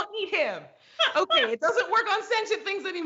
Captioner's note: laughs